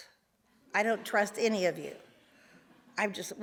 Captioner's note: audience laughs